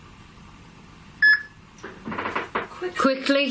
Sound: loud beeping

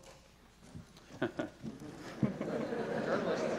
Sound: laughter

